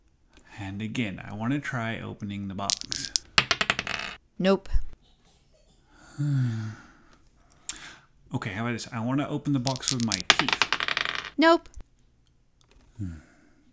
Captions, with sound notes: -And again I want to try opening the box. *sounds of dice being shaken and thrown* -Nope *sigh* -Ok how about this I want to open the box with my teeth. *sounds of dice being shaken and thrown* -Nope